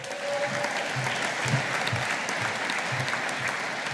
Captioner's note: audience applauding